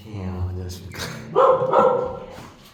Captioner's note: barking